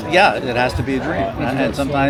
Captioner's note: none